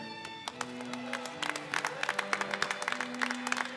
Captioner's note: applause